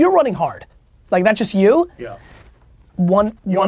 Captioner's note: pat